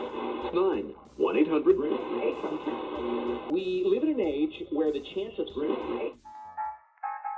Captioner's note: scanning radio dial; big band swing music